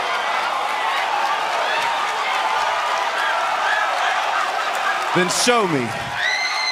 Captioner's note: crowd cheering